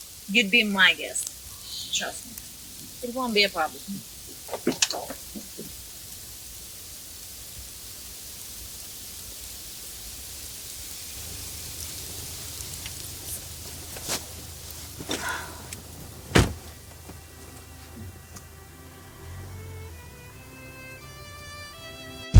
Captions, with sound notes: You'd be my guest. Trust me. It won't be a problem. (Door Opens) (Door Slams) (Soft music)